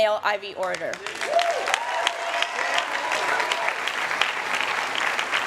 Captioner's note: cheering